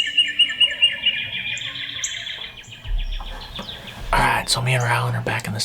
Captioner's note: whispering